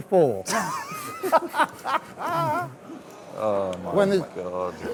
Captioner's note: laughing